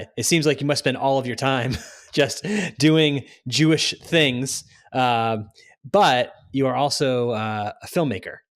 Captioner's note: laughs